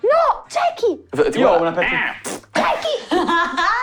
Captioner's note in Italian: Pernacchia